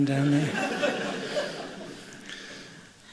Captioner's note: laughter